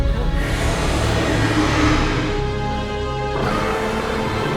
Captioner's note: dragon growls